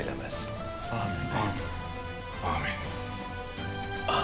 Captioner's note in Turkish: Hep bir ağızdan